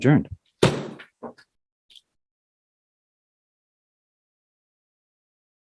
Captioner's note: gavel